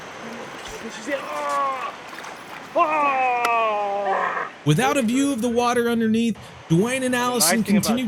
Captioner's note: lure sounds on water - waterfowl in background